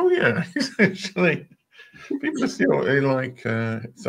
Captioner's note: laughter